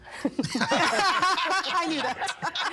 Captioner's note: all laughing